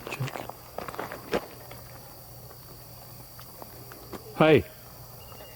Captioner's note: katydids forest sounds